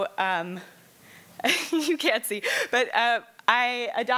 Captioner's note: laughs